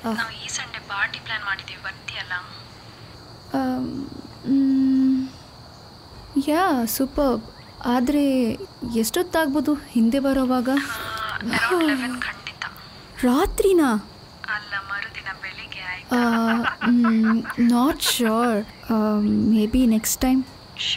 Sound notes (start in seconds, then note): 14.6 sarcastically